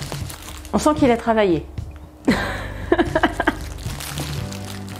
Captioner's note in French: rires